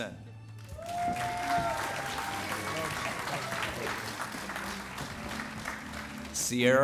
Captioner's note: applause